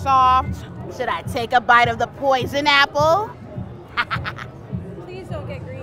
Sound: laughs

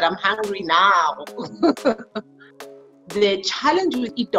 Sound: laughing

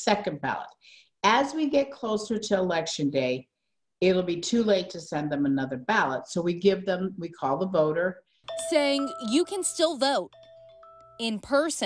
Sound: nat pop of phone ringing

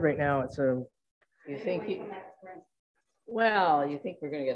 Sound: overlapping chatter

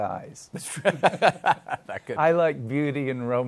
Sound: both laugh

